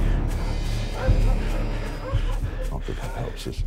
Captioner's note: suspenseful music; dog barking